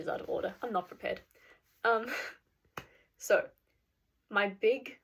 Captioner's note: clap